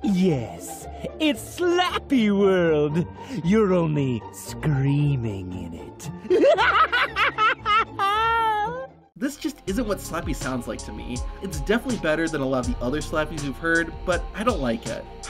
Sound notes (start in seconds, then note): 6.2 laughs maniacally